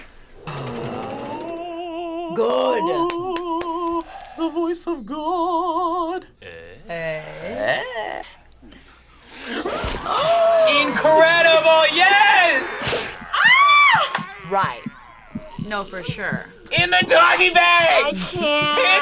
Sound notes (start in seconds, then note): 0.3 sighs; 9.6 gasps; 13.5 screams